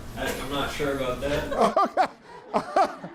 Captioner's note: everyone laughs